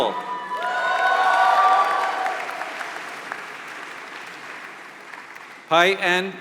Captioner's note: applause